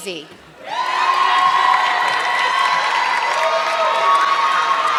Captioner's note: audience clapping